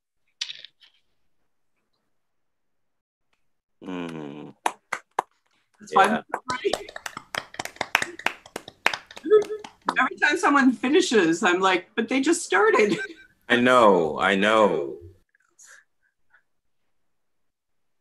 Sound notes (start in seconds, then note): 4.1 applause